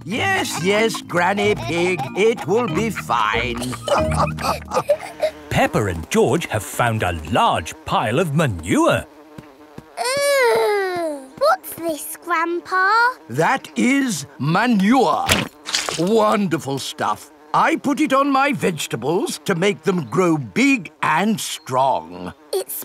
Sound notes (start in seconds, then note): 4.0 all laughing